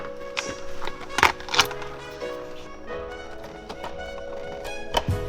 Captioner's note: metal cluttering; upbeat music